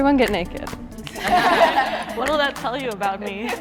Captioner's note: everyone laughs